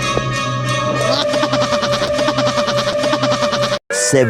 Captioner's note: laughs in a different voice